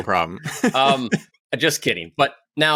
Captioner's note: laughs